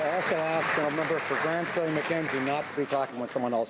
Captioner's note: some Applause